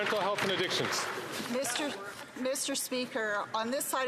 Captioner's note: some Applause